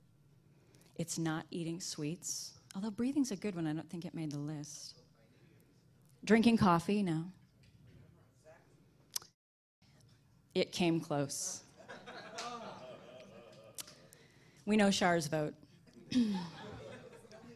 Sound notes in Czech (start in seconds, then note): 11.7 smích